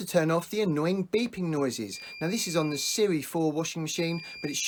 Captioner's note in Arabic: ضوضاء صفير في الخلفية